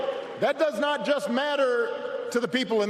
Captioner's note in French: applause